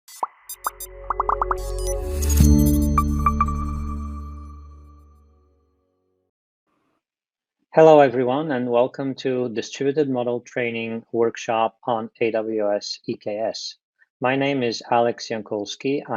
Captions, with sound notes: (electronic music) (bubbles popping) - Hello, everyone, and welcome to Distributed Model Training Workshop on AWS EKS. My name is Alex Iankoulski.